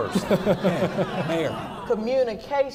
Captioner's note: laughing